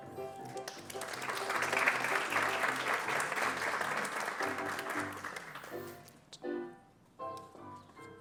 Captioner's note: applause